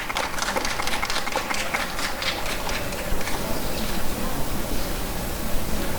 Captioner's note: applause and cheering